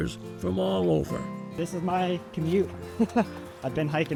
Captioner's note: chuckles